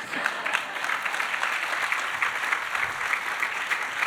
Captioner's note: audience applauding